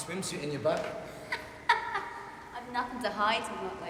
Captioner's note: laughing